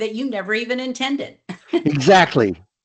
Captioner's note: laughs